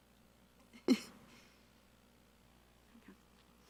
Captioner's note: laughing